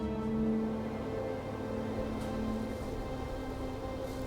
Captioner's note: wind blows